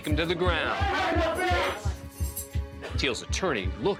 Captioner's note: shouting